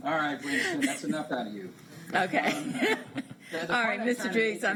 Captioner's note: laughter